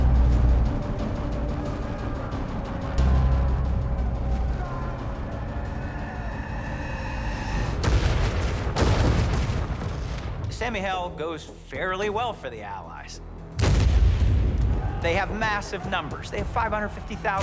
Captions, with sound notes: [sounds of battle] [cannon fire] [cannon fire] - St. Mihiel goes fairly well for the Allies. They have massive numbers. They have 550,000 men.